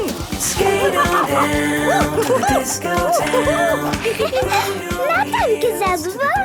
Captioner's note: laughing and exclaiming